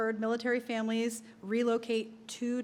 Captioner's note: none